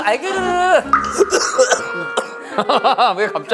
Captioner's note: coughs aggresively